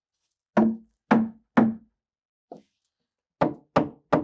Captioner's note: hammer knocking